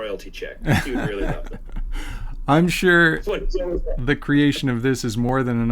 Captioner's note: laughs